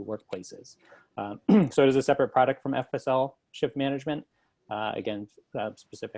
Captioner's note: cough